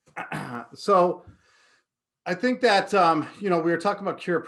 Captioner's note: clears throat